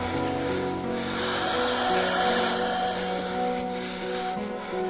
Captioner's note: labored breathing